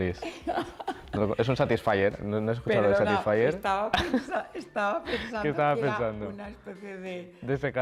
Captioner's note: laughs; laughs